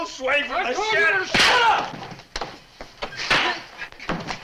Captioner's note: hand slaps